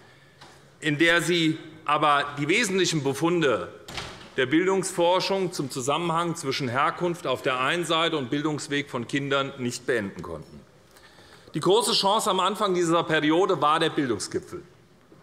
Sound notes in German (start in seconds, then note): none